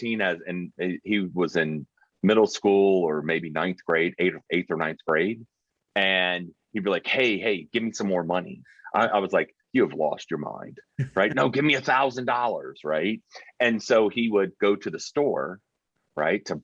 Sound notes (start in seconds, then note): 11.0 laughing